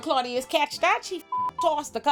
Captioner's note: beep